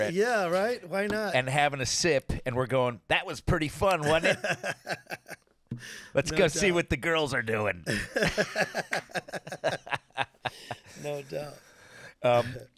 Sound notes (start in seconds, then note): 4.0 laughing; 7.8 laughing